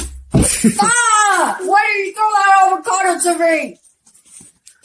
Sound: Magenta Screaming

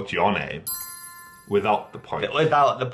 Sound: tiny bell chime

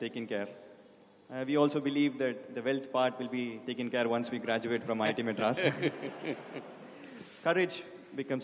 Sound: laughter

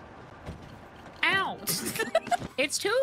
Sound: laughter

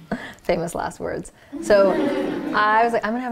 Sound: laughter

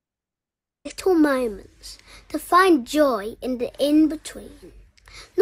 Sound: child's Voice

